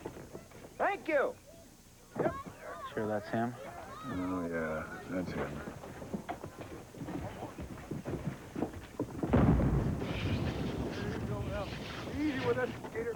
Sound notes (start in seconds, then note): 9.2 distant explosion